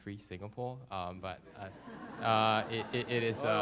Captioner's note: laughter